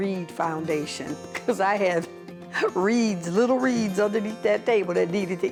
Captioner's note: laughs